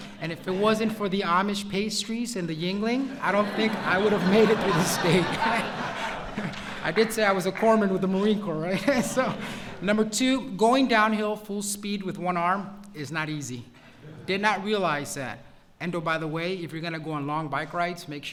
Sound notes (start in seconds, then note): 3.0 laughter; 8.5 laughs